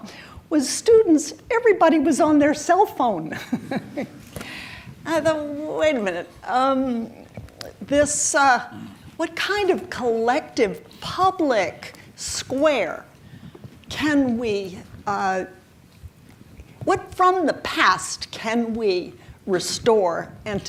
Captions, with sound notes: was students, everybody was on their cell phone (chuckles) and I thought, wait a minute. What kind of collective public square can we, what from the past can we restore and put together